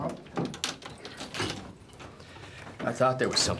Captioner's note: objects clattering